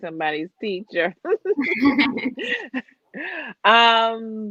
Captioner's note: laughs